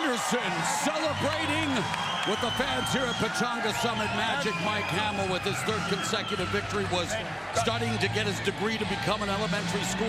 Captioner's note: cheers and applause